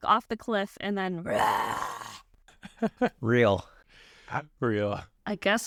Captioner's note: imitates bear